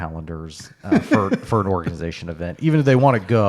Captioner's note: laughing